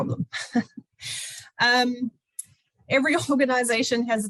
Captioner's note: laughs